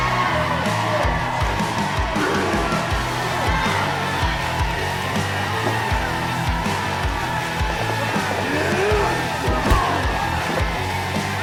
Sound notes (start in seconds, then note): 3.7 crowd cheering; 5.9 rock Music playing; 9.4 Tecolote lets out a painful grunt